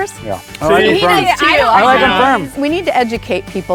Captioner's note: group clamoring